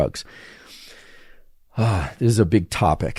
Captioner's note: sighs